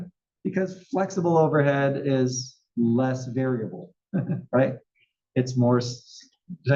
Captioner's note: laugh